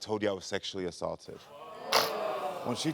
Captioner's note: audience groans